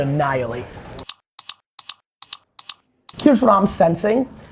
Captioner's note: clicking